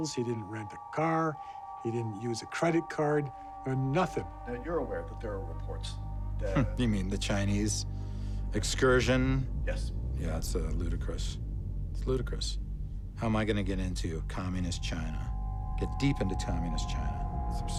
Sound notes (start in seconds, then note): 7.0 scoffs